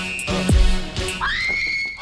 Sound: screams

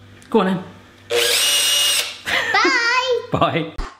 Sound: whirring

